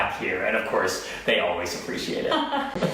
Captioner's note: laughing